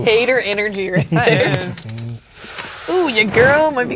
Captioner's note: chuckling